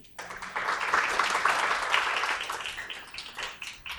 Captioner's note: applause